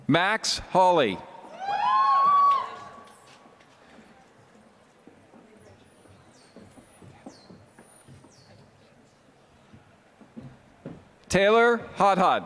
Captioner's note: applause